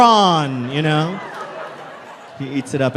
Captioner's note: crowd laughs